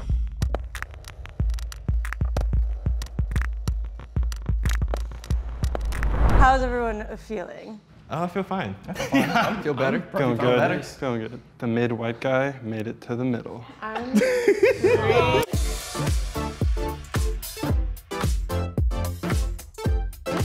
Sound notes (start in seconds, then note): 0.1 bright upbeat music; 14.0 men laughing; 14.8 bright upbeat music